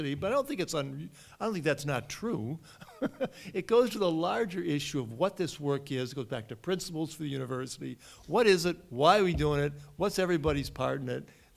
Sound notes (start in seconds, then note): 2.9 laughs